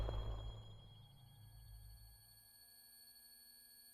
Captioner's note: gunshot